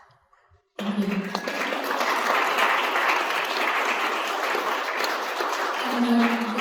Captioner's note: crowd Applause